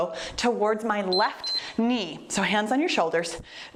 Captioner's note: timer beeps